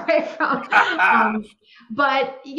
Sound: both laughing

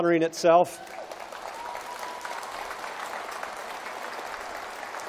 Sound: applause

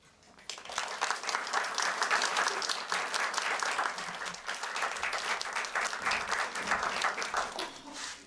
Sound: applause

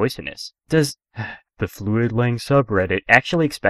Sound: sigh

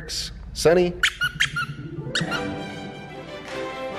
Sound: dog toy squeaking; exciting music playing

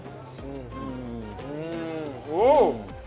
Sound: eating

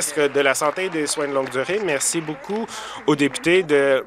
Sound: applause

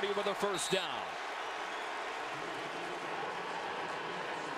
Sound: crowd cheering

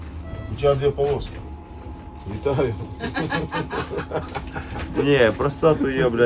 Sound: laughter

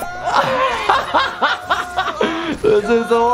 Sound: laughing

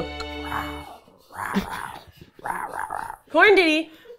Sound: growling

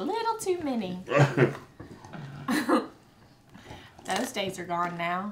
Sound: laughing

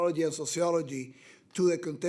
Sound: none

